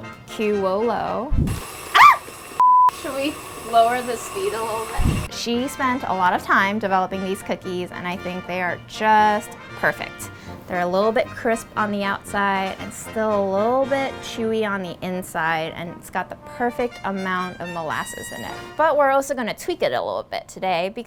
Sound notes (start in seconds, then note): 1.9 screams; 2.6 beep